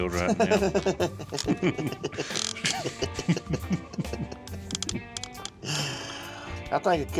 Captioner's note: laughing